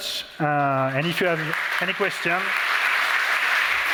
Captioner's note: applause